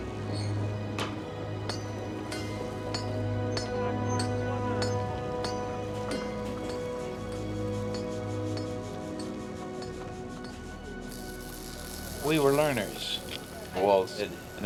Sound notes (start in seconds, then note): 0.9 hammer banging; 10.9 sparks crackling